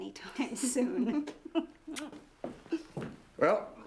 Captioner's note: laughs